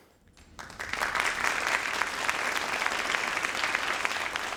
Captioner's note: crowd applauding